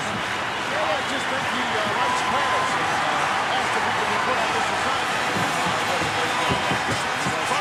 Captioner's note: applause